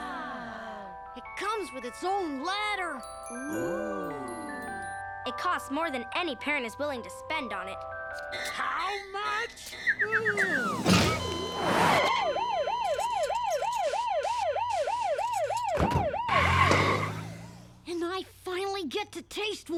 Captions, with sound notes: - It comes with its own ladder. - It costs more than any parent is willing to spend on it. - How much?! (ambulance sirens) - And I finally get to taste one!